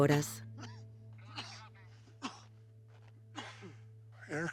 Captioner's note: coughing